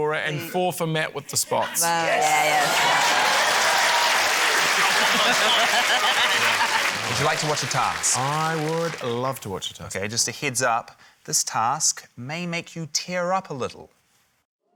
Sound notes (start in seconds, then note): 1.9 cheering, applause; 4.4 laughs